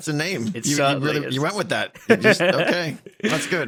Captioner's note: laughs